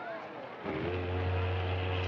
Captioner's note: boat whistle blows